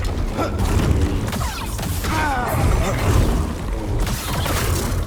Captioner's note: lightsabers swinging